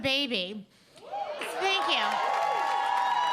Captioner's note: audience applauding; audience cheering